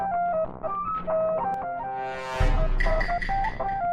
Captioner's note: sussy noise